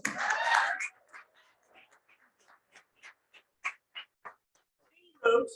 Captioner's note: cheering and applause